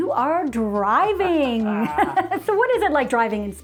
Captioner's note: both chuckling